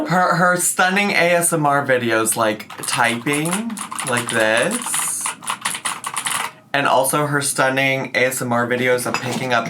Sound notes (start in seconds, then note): 5.3 keyboard clicking